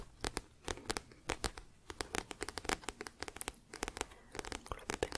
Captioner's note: tapping on book